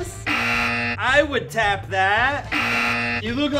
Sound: buzzer goes off; buzzer goes off

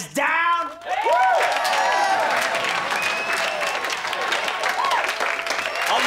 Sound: cheering, applauding

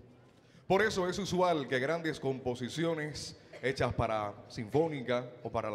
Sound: MC speaking in Spanish

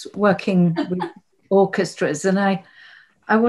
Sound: laughs

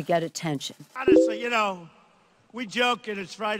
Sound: Donald Trump speaking

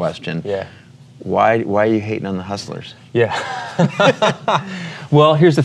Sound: laughing

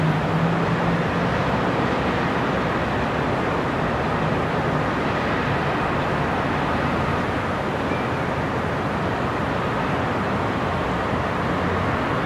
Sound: sound of distant cars and city noises

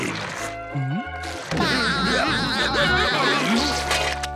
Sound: laughing

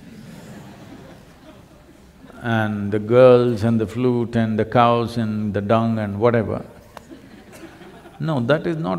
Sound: laughter; laughter

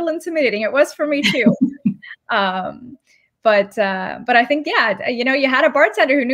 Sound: laughter

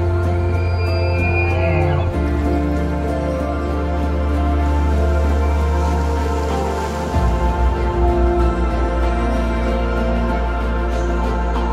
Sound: animal noises & music

